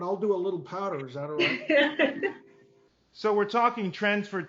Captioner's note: laughs